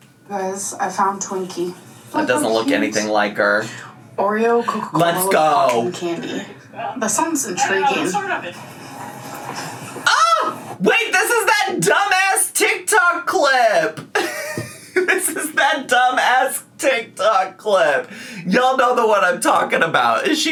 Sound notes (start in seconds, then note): 14.1 laughing